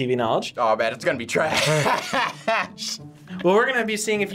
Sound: laughs

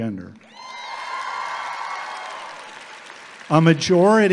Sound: audience applauding

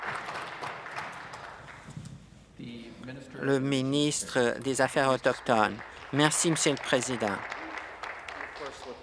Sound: applause

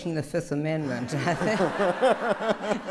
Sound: laughter

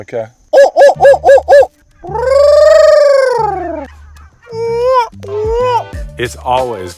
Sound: bird impressions

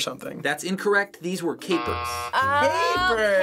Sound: buzzer

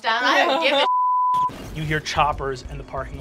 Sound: beep; video scratches

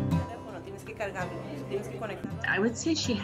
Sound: upbeat music; speaking in foreign language

